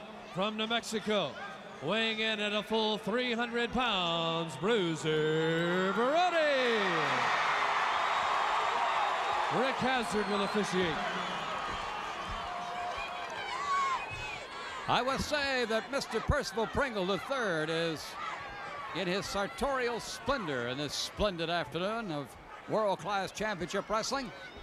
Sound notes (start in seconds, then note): 6.7 applause